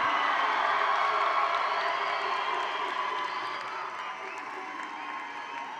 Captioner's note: audience applauds and cheers